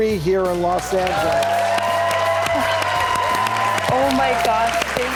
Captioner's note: applause